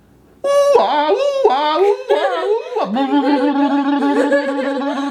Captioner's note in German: macht komische Geräusche